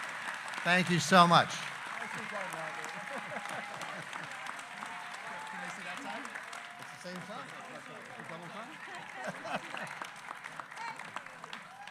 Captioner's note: applause